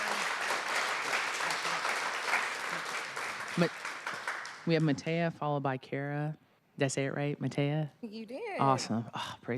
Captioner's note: applause